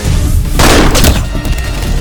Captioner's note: gunshot